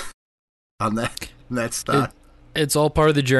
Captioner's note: chuckles